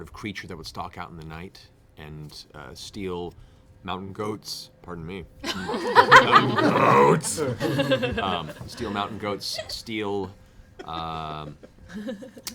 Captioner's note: belches